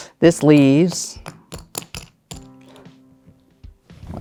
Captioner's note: tokens clattering